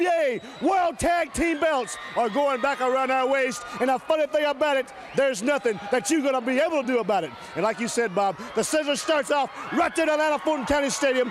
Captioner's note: crowd cheering